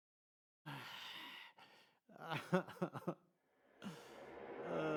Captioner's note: sobbing